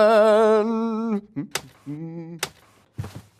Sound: continues humming

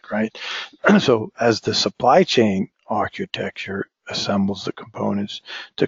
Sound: cough

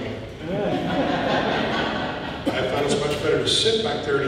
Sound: audience laughing

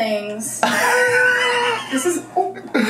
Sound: laughs

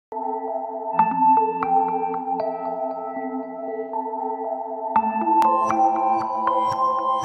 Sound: gentle chiming

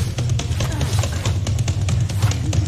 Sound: grunting

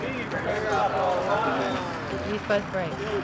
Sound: crowd

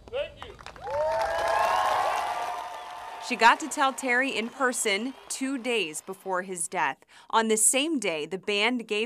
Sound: applause

